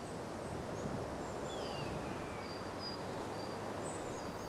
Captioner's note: birds chirping